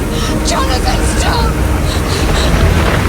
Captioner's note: thunder